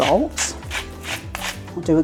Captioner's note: salt mill grinding